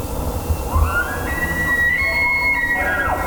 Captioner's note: elk bugling